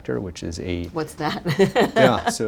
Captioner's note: laughs